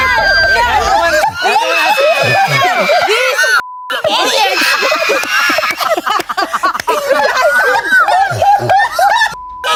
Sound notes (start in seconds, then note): 0.0 everyone exclaims; 3.6 beep; 6.7 everyone laughs